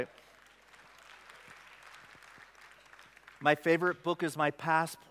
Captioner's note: applause